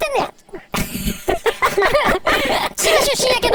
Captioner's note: laughing